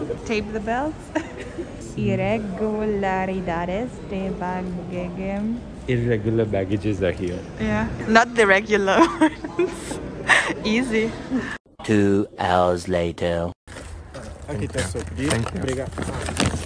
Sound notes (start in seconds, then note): 9.0 chuckles